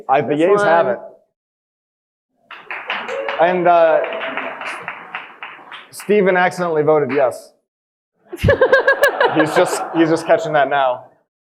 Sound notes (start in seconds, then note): 2.5 audience applauding; 8.3 all laughing